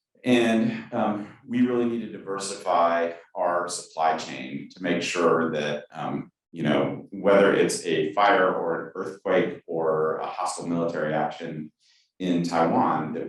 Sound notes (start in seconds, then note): none